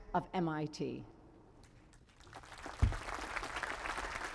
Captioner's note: applause